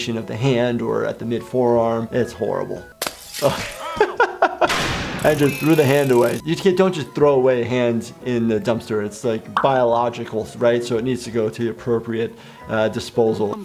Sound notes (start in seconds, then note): 2.9 clanking metal; 3.0 breaking glass